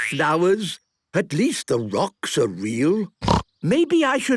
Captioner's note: snorting